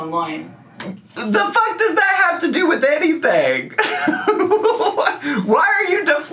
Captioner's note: laughs